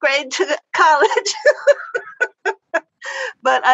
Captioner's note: laughter